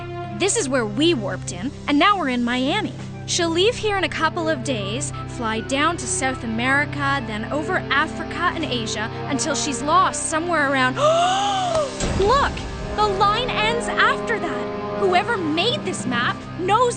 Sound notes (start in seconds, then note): 10.5 gasp